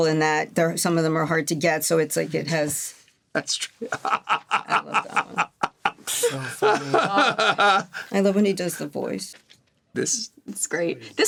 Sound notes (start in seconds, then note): 3.8 laughing